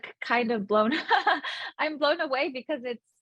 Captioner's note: laughing